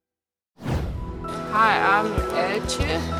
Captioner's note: air whooshing